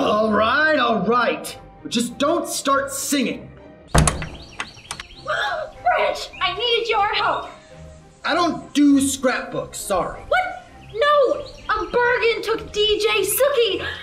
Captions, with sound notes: UGH. All right all right Just don't start singing. (GASPS) Branch, I need your help. I don't do scrapbooks, sorry. What? NO! A Bergen took Dj Suki!